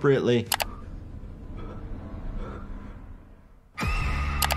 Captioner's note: heavy breathing; child screaming